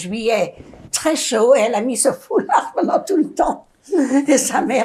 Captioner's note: laughing